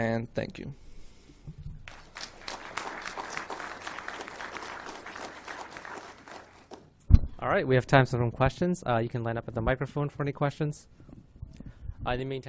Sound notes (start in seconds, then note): 1.8 audience applauding